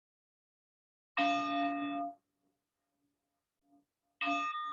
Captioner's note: bell chimes